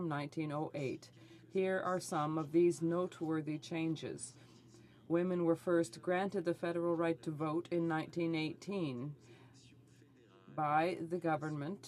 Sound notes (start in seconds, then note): none